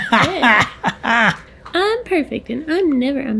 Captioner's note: wheezy laughs